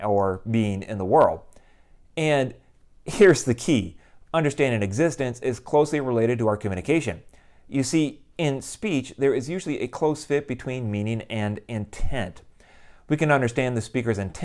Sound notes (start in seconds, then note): none